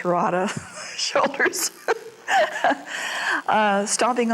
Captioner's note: laughs